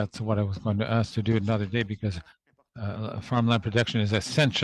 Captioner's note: speaking French